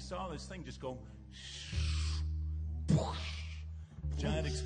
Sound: vocalizes

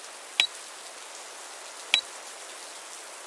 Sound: click......click

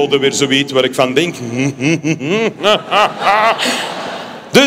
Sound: laughs

